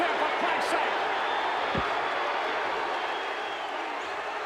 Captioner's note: crowd cheering